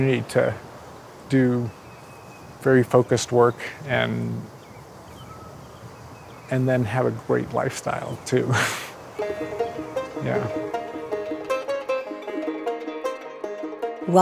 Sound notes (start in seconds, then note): 8.3 chuckling; 9.2 upbeat music